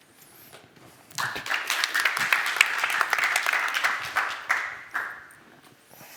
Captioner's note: applause